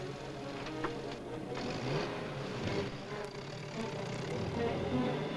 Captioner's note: soft dramatic music; jeep accelerates away; dramatic music